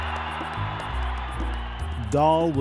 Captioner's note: cheering